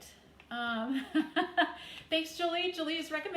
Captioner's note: chuckles